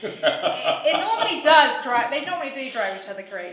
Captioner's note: laughs loudly; laughs